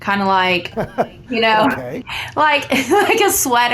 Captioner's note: chuckling